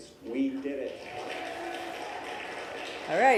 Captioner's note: applause